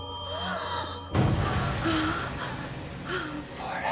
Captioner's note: Bryn gasps